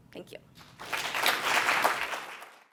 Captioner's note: applause